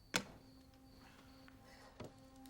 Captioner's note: gun thuds; foreboding music